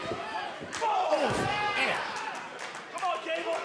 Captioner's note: crowd cheering